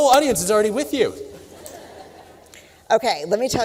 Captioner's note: laughter